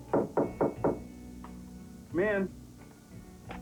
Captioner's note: knock on door